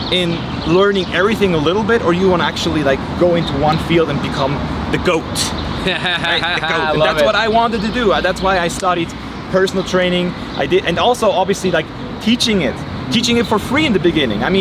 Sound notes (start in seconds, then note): 5.7 laughing